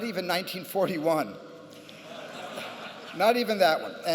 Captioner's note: laughter